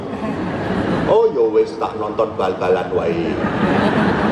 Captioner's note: on TV